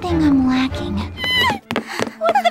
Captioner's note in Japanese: 足音